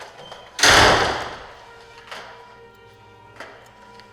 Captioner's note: door slamming